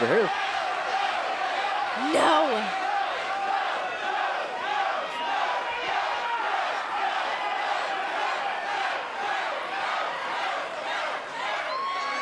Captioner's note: crowd cheering